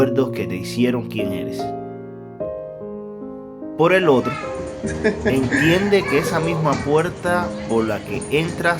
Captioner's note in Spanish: risas